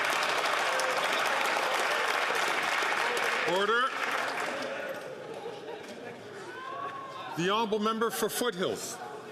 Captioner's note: some Applause